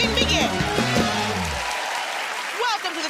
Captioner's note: cheers and applause